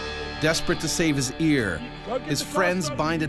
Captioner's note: voiceover